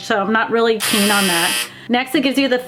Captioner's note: buzzer blares